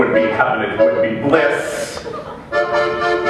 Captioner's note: laughter